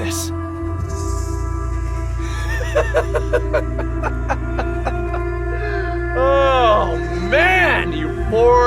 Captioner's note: laughs